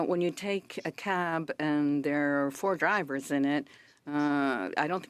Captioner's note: speaking French